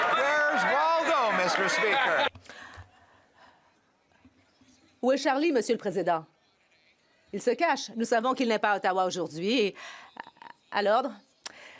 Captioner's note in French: applaudissements